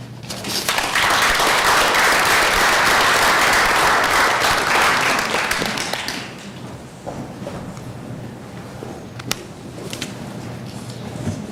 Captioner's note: applause